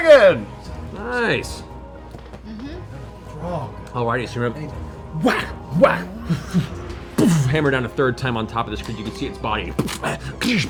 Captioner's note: hammer strikes